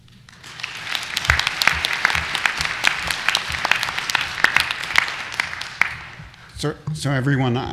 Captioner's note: applause